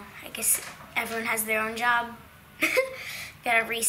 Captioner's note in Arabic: يضحك